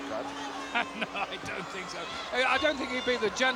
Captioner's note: chuckles